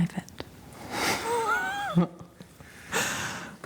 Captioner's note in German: lacht